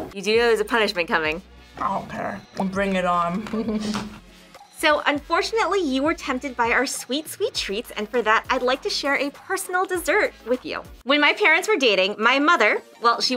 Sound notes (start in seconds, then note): 3.2 laughs